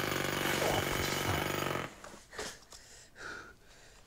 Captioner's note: jackhammer buzzes